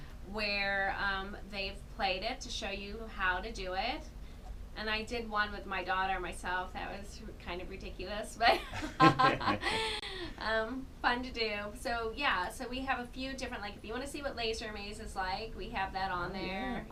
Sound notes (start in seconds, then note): 8.6 laughs